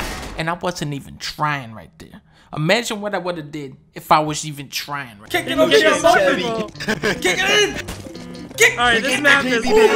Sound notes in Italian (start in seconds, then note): 5.3 Acclamazioni eccitate; 8.5 celebrazione